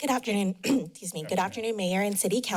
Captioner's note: clears throat